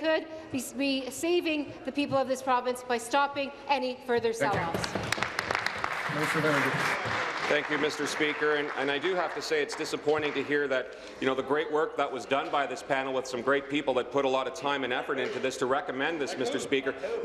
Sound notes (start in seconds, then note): 8.6 applause